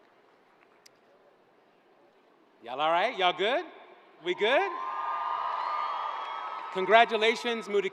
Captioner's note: cheers and applause